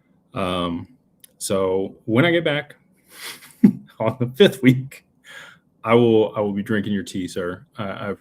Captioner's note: snorts